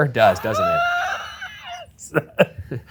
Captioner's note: laughs